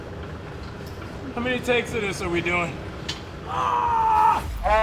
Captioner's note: groans